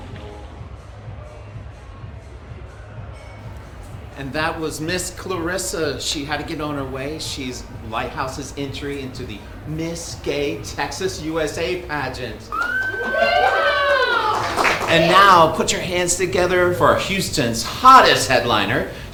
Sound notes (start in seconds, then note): 13.1 cheering and clapping